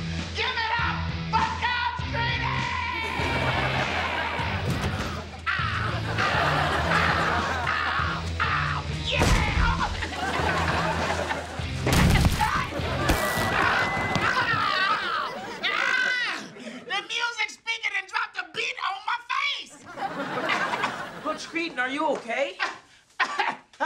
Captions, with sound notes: Give it up for Coach Kreeton! [screaming] Yeah! Oh, oh! [laughing] [crashing] [screaming] The music speaking, it dropped a beat on my face! Coach Kreeton, are you OK?